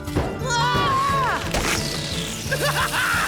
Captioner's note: air hisses